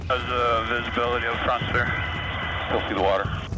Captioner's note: man On Radio